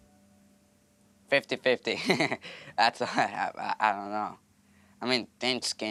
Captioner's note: laughs